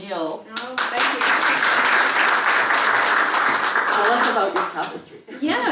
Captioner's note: applause